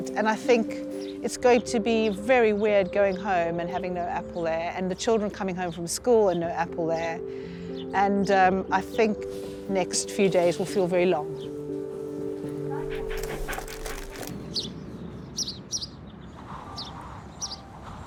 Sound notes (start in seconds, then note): 12.6 Apple panting; 15.1 birds chirping